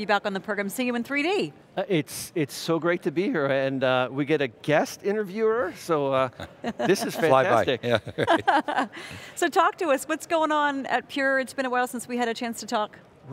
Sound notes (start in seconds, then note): 6.1 laughs